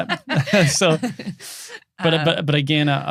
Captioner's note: laughing